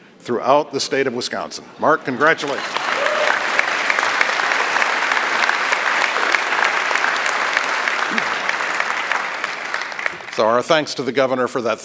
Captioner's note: applause